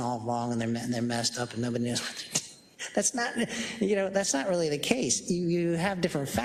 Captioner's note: laugh